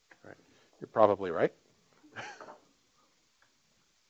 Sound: laughing

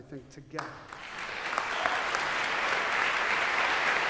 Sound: applause

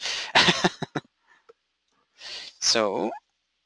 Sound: laughing

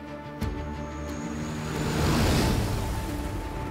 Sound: propellers humming

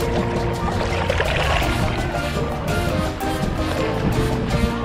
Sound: water splashing; water splashing

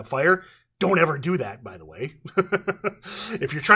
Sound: laughs

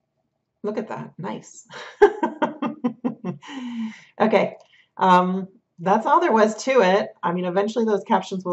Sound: laughter

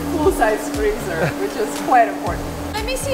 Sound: chuckling

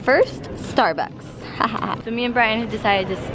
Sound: laughs

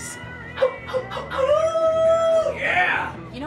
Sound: Donny howls

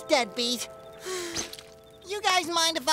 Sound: sighing

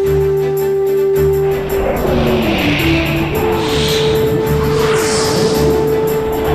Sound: whooshes

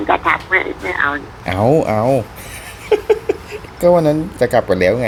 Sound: laughing

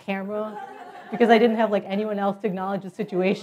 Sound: laugh

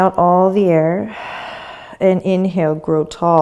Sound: exhaling

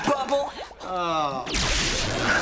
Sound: groaning

